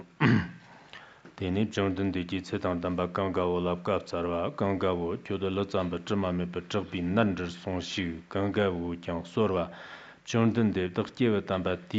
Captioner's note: giving oral transmission in Tibetan